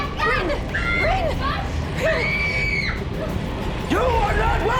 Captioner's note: Reenactment Bryn screaming